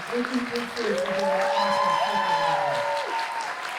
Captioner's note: cheers and applause